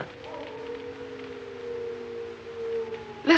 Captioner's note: howling